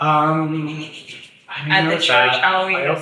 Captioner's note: hands scratching